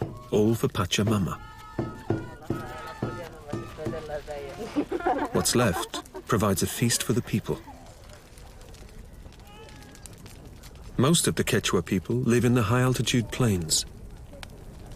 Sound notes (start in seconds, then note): 2.1 speaking in foreign language; 4.5 laughing